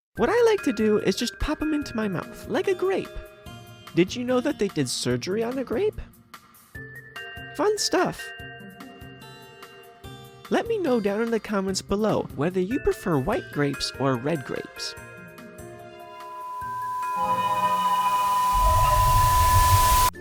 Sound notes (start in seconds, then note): 16.2 Static; 19.0 scary sounds